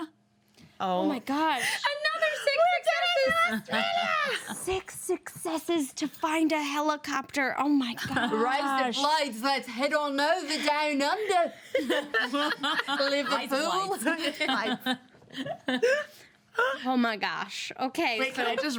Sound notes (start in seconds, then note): 14.3 women laugh